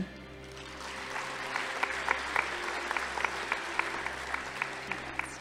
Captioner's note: audience applauding